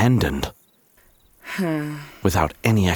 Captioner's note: Thomas sighing